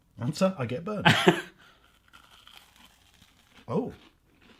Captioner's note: laughing